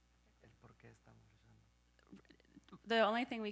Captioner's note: speaking in Spanish